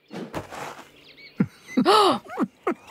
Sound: gasps

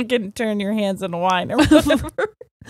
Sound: both laughing

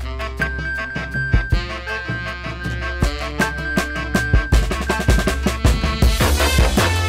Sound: iphone pinging

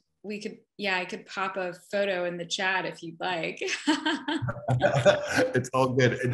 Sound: laughs

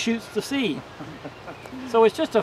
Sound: chuckles from the audience

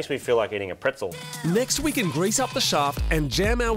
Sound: voiceover

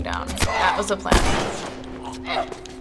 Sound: gunshot

